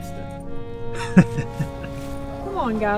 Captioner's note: chuckling